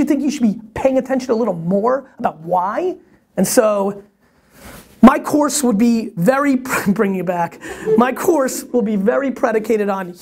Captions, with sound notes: you should be paying attention a little more, the why. And so, my course would be very, (chuckle) bring you back. My course will be very predicated on: